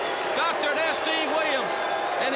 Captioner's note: crowd chatter